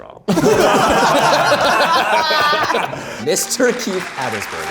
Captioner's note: group laughs